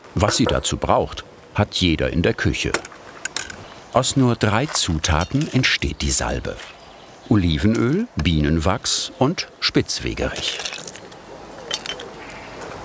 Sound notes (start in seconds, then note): 11.6 dishes rattle